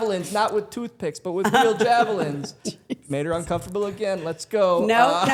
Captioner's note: Stephanie and Dylan laughing